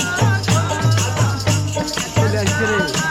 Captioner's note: chanting